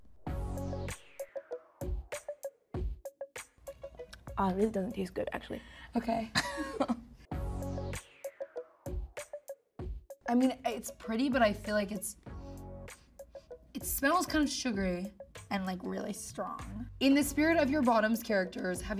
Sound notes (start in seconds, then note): 0.2 funky music; 7.3 funky music; 12.1 sniffing